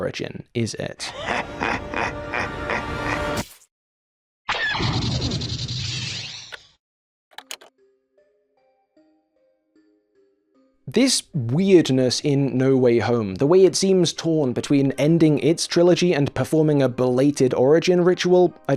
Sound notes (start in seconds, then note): 1.0 clip - GREEN GOBLIN laughs maniacally